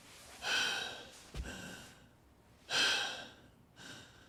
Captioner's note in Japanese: ため息; 息をのむ音